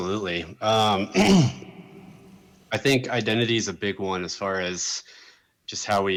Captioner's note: clears throat